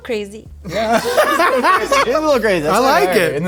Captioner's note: laughing